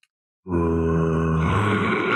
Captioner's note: monstrous growl; monstrous laughter